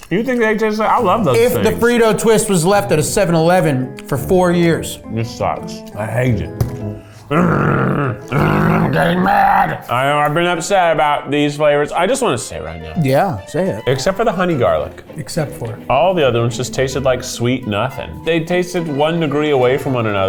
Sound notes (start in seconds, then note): 7.2 growling